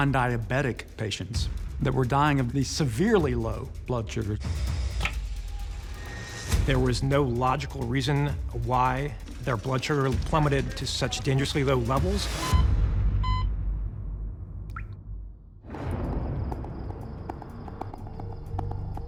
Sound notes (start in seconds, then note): 13.2 beeping